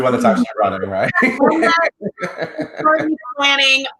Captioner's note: laughs